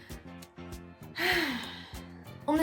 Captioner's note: satisfied sigh